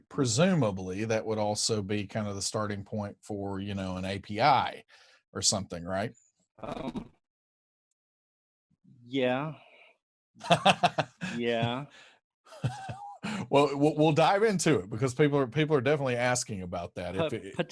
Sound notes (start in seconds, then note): 10.4 laughs